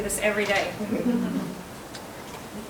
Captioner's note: laughing